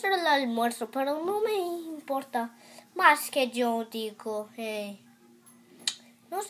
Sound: talking like a Preschooler again

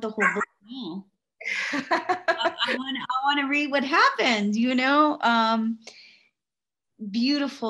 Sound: laughs

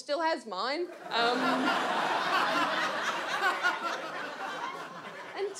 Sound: audience laughs

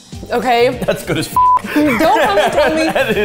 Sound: beep

